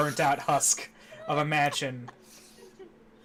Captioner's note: crylaughing